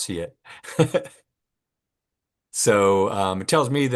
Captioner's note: laughs